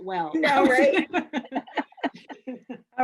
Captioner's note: laughs